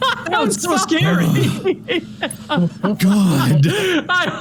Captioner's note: is still cackling; groan